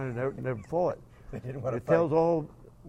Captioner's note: laughing